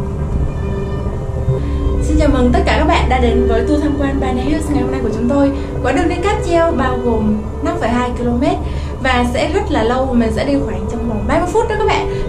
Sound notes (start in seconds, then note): 1.6 imitating tour guides